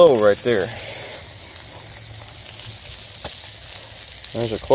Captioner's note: sizzling